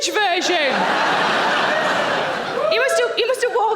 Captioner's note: audience laughing